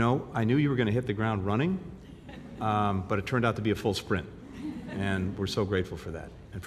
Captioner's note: laughter